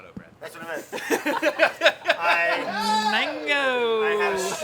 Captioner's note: everyone laughs